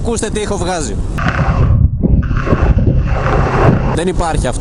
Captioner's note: camera sound